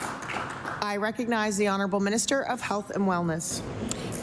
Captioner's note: applause